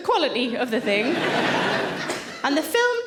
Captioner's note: audience laughing